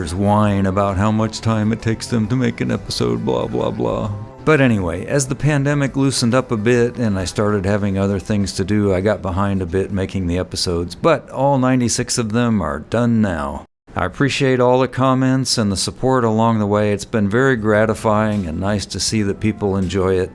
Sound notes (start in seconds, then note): 7.4 mock crying